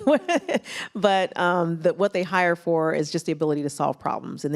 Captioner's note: laughs